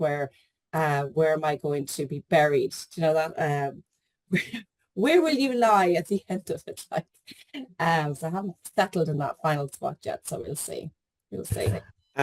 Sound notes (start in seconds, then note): 8.0 laughs